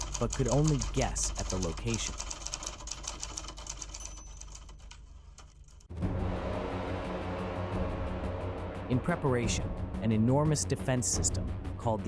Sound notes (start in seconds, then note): 3.5 typewriter clicking; 4.9 typewriter dinging; 5.9 menacing music